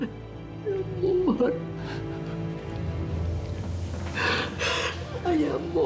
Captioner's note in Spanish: sollozos